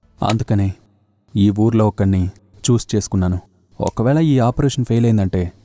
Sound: none

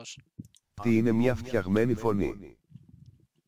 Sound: text-to-speech talking

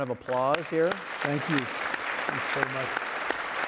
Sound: audience applauding

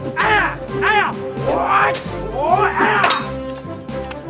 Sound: yelling

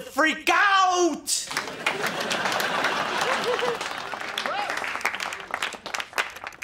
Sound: applauding

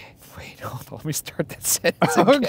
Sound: laughing; laughs

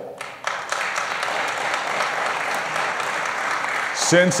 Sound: applause

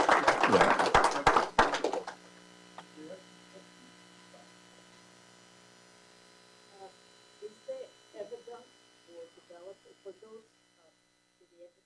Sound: applause

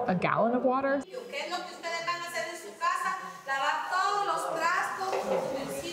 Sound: speaking foreign language

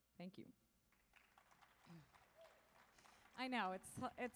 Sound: audience applauding

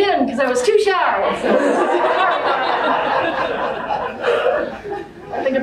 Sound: group laughter

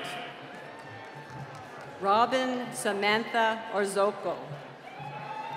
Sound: applause; cheering

